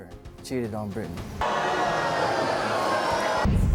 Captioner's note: audience booing